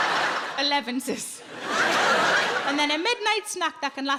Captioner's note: audience laughs